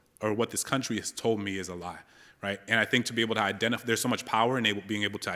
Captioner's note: none